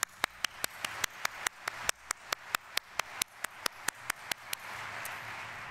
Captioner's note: audience applauding